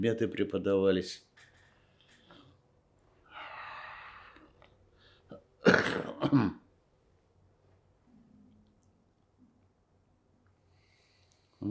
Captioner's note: coughing